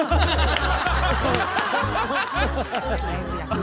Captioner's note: laughing